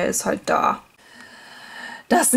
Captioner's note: inhale